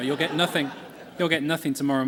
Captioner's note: laughter